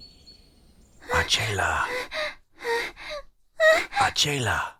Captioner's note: Acela gasping